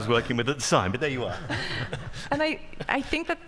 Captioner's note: group laughing